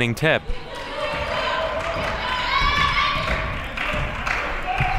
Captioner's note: crowd clapping